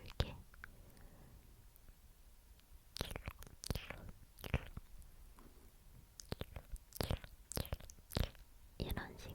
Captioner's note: mouth sounds